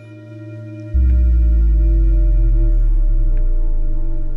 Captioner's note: deep bass frequencies